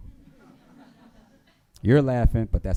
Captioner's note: attendees laughing